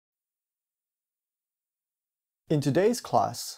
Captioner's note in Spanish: sin_audio